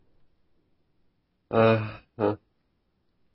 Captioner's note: sigh